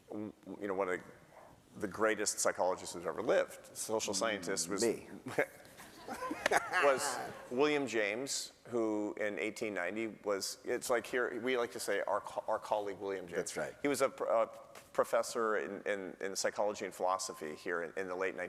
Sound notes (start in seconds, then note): 8.4 laughter